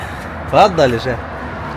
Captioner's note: Arabic